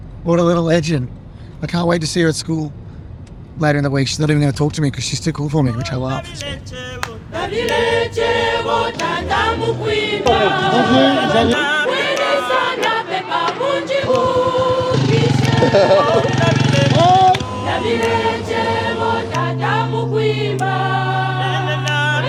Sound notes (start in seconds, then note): 7.0 joyful music; 15.7 Dylan chuckling; 18.6 joyful music continues